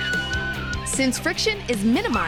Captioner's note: screaming